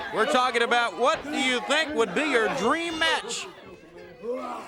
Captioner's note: crowd chatter